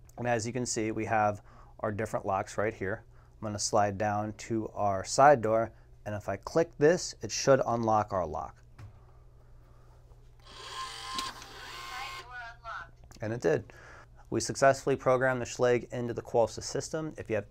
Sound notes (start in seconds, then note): 10.4 whirring; 11.8 digital voice